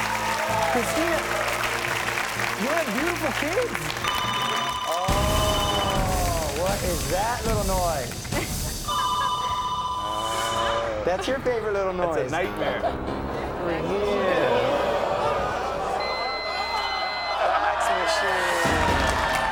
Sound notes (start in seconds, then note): 4.0 fax machine ringing; 8.9 fax machine continues ringing; 16.0 fax machine beeps; 18.2 dramatic music